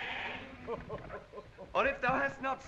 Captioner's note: Corin chuckles